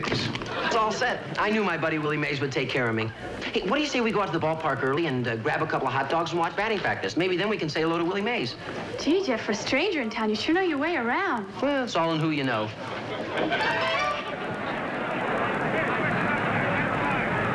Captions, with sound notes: Gee, Jeff, for a stranger in town, you sure know, your way around. Well, it's all in who you know. (SPECTATORS CHATTERING) Tickets for Stone, please?